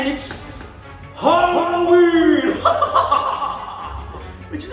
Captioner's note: evil laugh